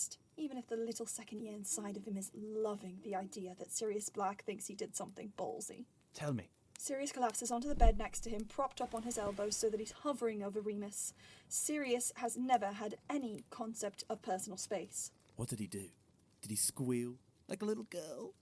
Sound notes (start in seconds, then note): 7.6 bed shuffles